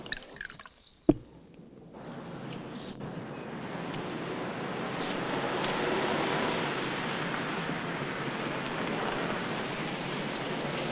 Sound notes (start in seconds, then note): 0.0 drink pouring; 5.8 car rumbling